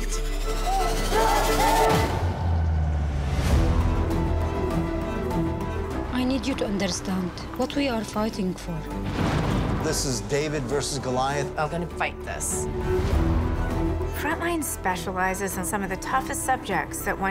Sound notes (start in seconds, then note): 0.1 tense music; 0.6 crowd yelling; 9.0 explosion banging